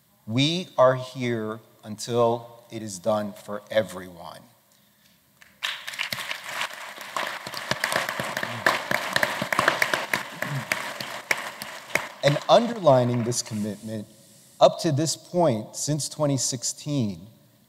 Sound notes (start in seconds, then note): 5.4 applause